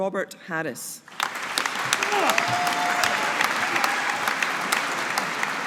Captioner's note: audience applauding